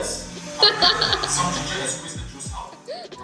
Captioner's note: laughs